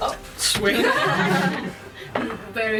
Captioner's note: laughter